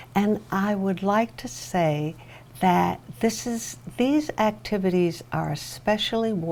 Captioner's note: none